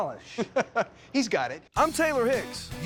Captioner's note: chuckling